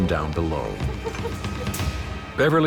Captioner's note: woman laughing